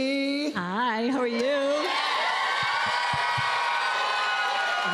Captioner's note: cheers and applause